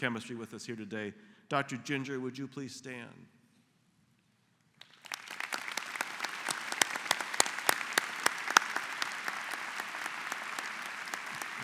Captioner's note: applause